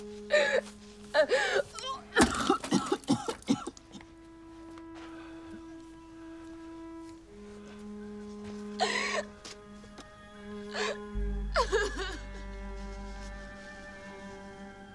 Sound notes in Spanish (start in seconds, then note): 2.1 arcadas; 8.2 el sollozo continúa